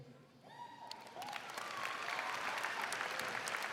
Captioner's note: crowd cheering; crowd clapping